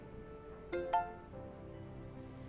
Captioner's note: phone chimes